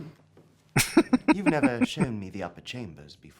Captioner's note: chuckling